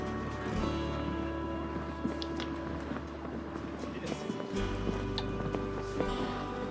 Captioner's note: kissing